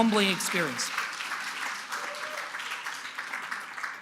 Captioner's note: applause